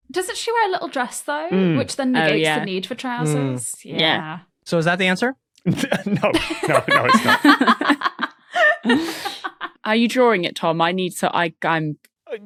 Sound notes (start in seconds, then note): 5.7 snickers; 7.4 laugh